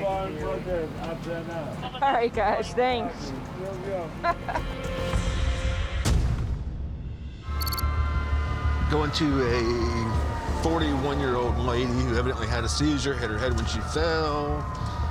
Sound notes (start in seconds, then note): 4.2 laughter; 8.1 sirens